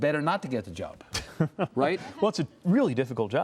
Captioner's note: laughing